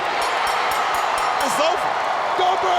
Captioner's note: crowd cheers; bell dings